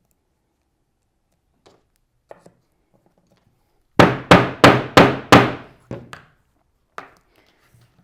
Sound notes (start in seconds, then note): 4.0 mallet thudding